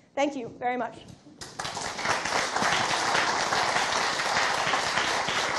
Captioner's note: applause